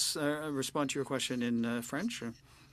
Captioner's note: speaking French